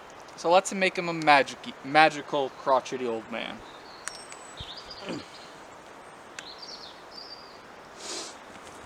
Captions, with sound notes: so lets make him a magic-y, magical crotchety old man (grunt) (sniff)